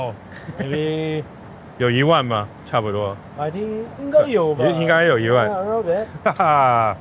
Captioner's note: speaking Mandarin